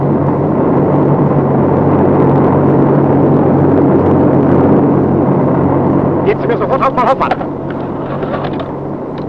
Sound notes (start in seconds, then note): 4.2 plane engines roaring